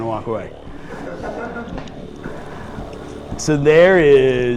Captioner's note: chuckling